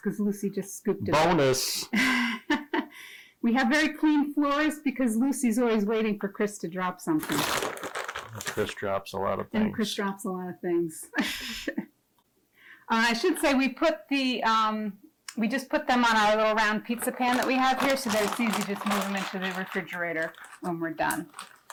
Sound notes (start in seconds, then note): 1.9 laughing; 7.2 polythene squeaking; 11.1 giggling; 16.9 polythene squeaking